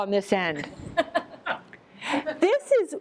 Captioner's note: laughter